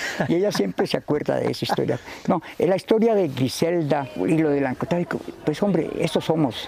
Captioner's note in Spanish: Riendo